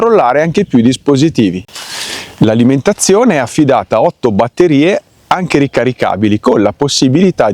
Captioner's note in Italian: sbuffare